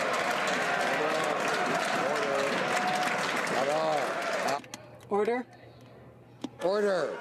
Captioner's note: some Applause